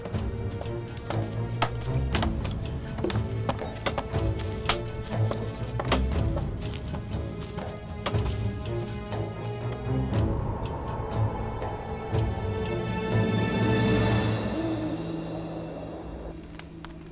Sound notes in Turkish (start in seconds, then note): 1.7 Kütük yontma sesleri; 10.1 Rüzgâr sesi; 14.1 Baykuş sesi